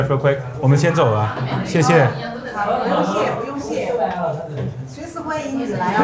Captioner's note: both speaking foreign language